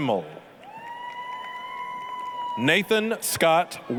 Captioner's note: applause, cheering